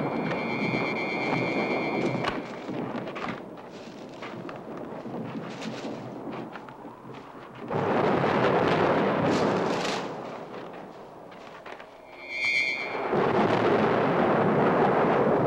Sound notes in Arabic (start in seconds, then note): 0.0 موسيقى مشوقة; 8.1 هدير الرعد